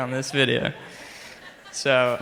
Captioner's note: crowd laughs